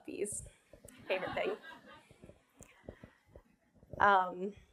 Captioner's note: laughing